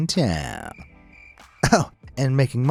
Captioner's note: insects chirping